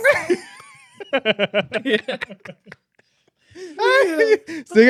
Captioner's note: laughing